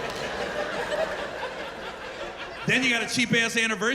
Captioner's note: laughter